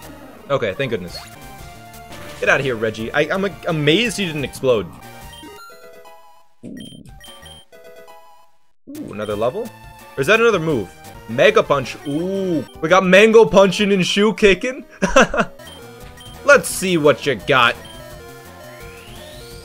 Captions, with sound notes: Okay, thank goodness. Get outta here Regi, I'm like amazed he didn't explode Another level. Or was that another move? Megapunch? Oooh, we got Mango punching and Shu kicking [laughs] Let's see what you got